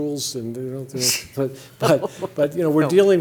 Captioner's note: laughter